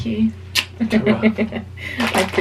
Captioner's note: lips smacking